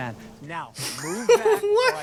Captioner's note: laugh